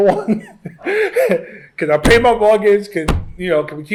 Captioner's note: laughs